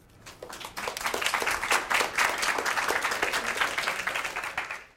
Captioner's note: audience clapping